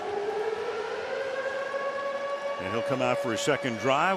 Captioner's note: siren blaring